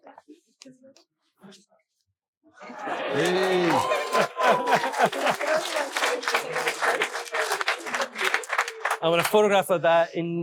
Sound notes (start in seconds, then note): 2.7 audience cheering and applauding; 5.1 faintly speaking